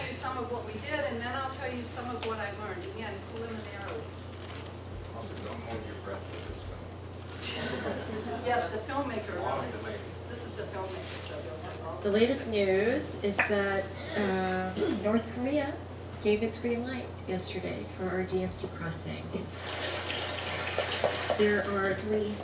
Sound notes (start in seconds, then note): 12.7 voice on the film; 19.8 applause